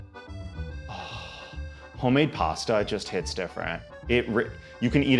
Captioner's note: sighs